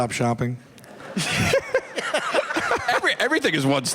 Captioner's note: laughter